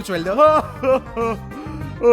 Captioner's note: laughs